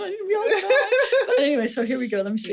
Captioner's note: laughing